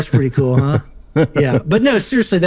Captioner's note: laughing